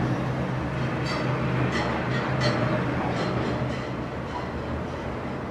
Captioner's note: garbage truck passing